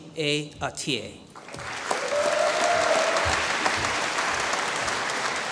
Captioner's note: applause